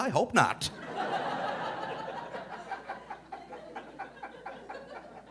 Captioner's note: audience laughing